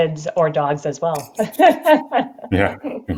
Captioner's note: chuckles